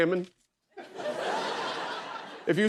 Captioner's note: laughter